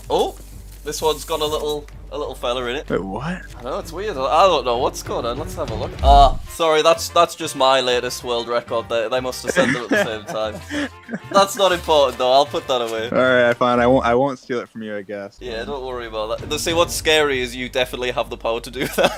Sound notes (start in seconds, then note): 9.4 dream laughing